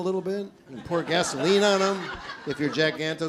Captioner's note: laughing